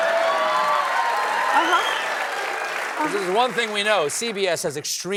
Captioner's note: cheers and applause